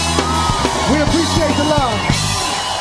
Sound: audience screaming

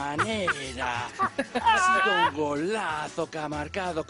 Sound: spanish speaking

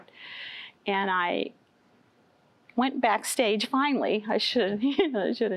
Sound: giggles

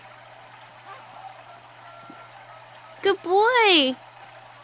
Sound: baby cries; baby snorts

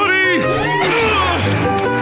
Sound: grunting

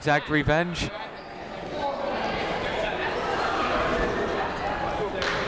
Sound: people talking in the crowd

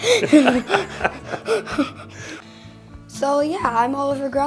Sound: both laughing

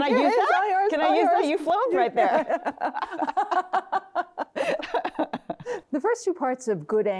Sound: both laughing

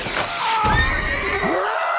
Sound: howling; neighs

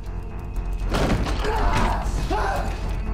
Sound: shouting

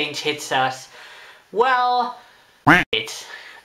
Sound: quack

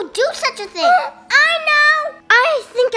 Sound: gasps

